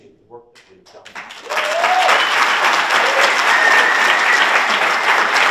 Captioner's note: audience applauds and cheers